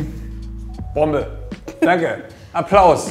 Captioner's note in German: Kichern